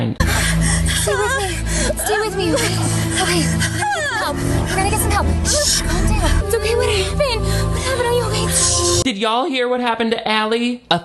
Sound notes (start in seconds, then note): 0.2 moans; 1.1 groans; 3.8 shrieks; 6.4 moans